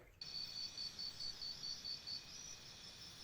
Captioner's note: sound of night